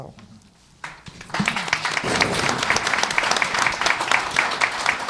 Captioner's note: applause